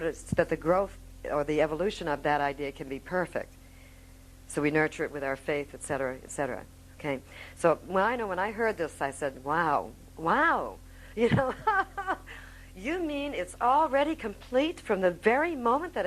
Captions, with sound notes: can be perfect, so we nurture it with our Faith, et cetera, et cetera, okay. I know when I heard this I said, wow, wow (laughing). You mean it's already complete from the very moment